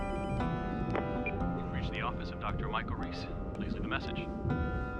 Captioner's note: ringing